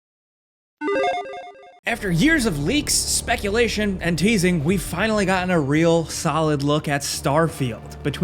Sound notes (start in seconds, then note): 0.0 logo crackling